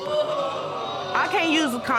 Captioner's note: audience exclaiming